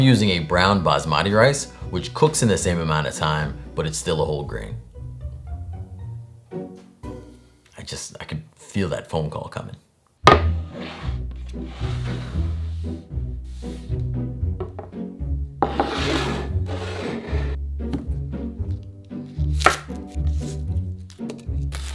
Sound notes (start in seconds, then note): 10.3 board sliding; 15.6 bowl sliding; 19.2 knife chopping